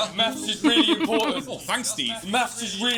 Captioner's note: chuckles